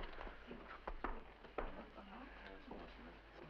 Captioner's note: people chattering indistinctly